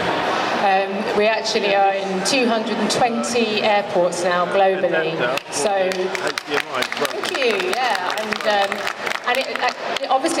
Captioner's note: applause